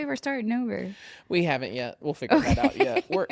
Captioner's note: laughs